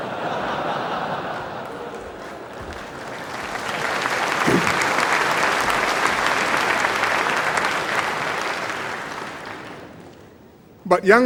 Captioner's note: laughter and applause